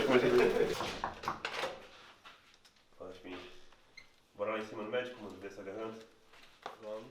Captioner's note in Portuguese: batidas na porta